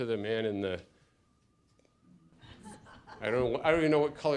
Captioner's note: laughter